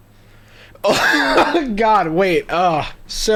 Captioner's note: laughing